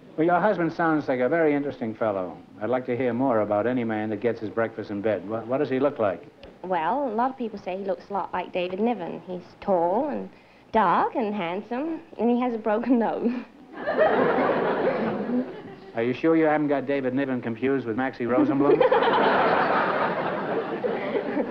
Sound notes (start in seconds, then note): 13.7 laughter; 18.5 laughter